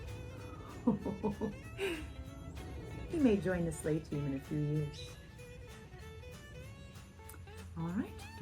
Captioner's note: ho-ho-ho chuckles